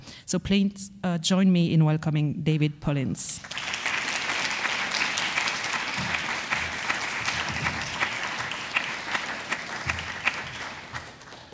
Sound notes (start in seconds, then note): 3.4 audience applause